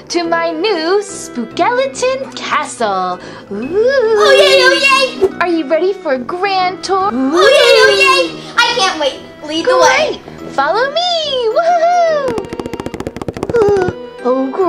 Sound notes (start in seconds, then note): 4.0 wailing; 12.4 footsteps thudding